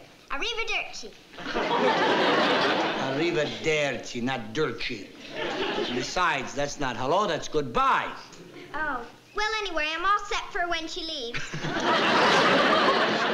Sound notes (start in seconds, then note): 0.2 speaking italian; 2.7 italian